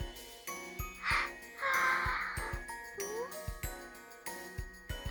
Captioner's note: waking up noises